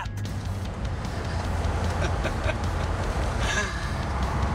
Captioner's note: laughing